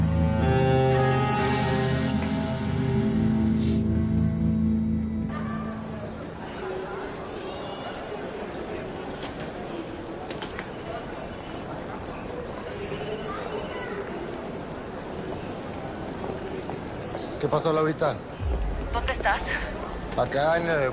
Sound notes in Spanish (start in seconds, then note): 6.0 Bullicio; 11.3 Suena el celular